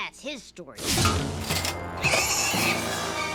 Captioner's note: pig squeals